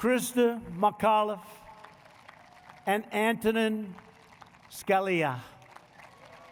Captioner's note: applause